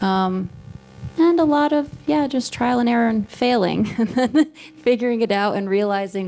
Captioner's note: laughs